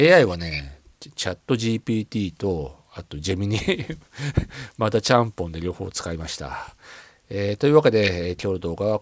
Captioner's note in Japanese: 笑い